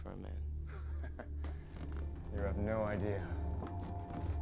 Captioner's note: chuckles